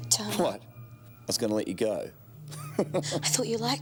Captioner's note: laughs